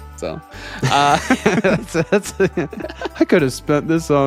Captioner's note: laughing